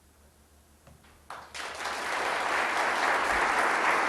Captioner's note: clapping